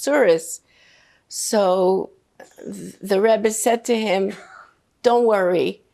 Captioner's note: coughing